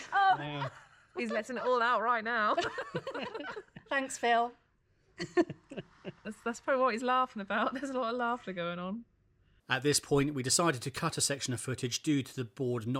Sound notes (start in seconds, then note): 2.5 everyone laughing; 5.2 everyone chuckles